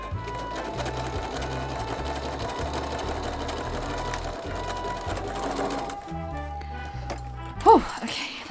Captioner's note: sewing